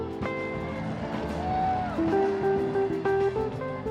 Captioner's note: people cheering